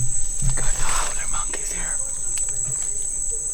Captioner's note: whispering